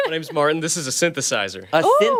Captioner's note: laughter